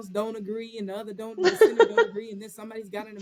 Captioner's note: laughter